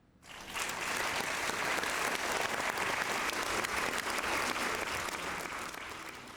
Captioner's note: applause